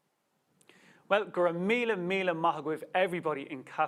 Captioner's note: speaks Irish